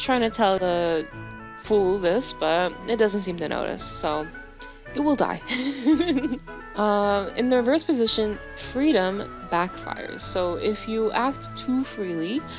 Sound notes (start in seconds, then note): 5.5 laughs